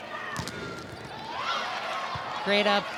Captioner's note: ball thumping